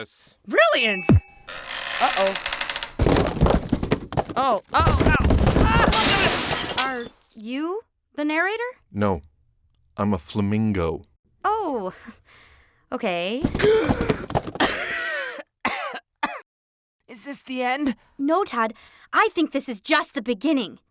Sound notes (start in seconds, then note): 2.6 crashing; 4.8 screaming; 5.7 glass breaking; 15.6 coughing